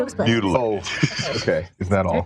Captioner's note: chuckles